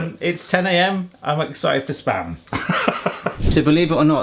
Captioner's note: laughing; upbeat music continues